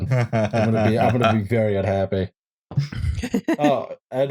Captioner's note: chuckles